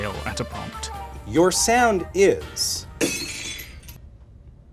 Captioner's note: vase breaking